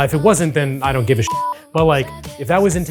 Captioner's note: beep